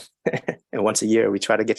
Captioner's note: chuckles